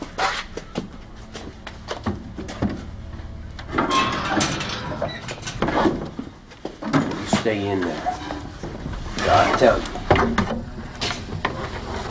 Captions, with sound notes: [Hatch door clangs open] You stay in there. Till I tell you.